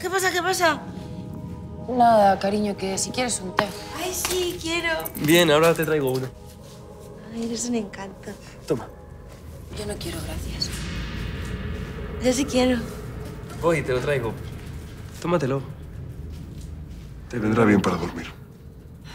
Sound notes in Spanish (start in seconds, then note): none